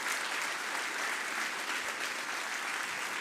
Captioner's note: applause